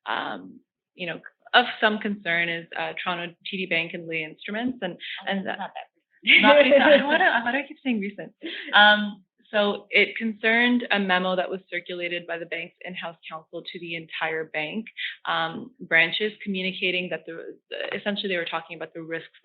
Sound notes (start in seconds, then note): 6.3 both laughing